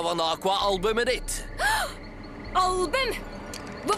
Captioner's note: gasps